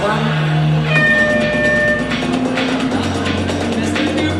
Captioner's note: horn blows